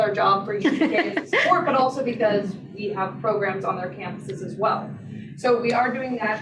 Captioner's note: laughter